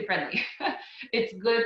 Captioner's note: laughs